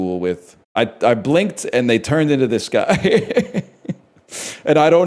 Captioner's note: laughs